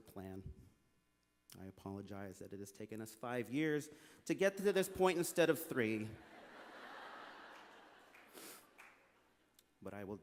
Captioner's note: laughter